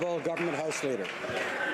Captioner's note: some Applause